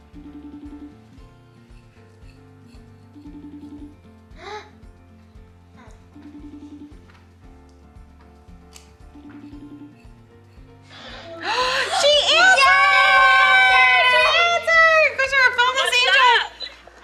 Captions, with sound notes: (phone ringing) (everyone gasping) She answered! (everyone cheering) - What's up?